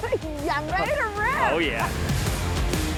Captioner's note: laughs; slow rock music continues